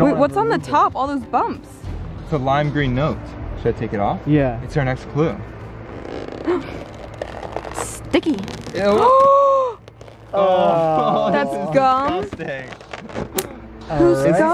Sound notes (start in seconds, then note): 6.4 gasps; 9.1 everyone gasps and groans